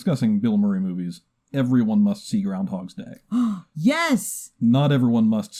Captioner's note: gasps